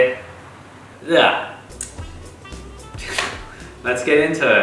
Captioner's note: wretches